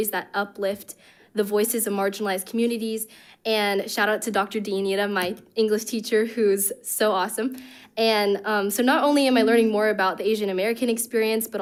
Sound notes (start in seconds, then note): none